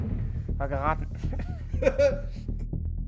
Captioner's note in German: Lachen